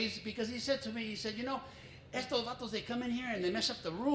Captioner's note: foreign language